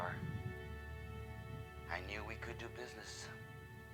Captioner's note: on phone